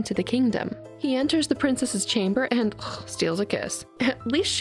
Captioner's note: ugh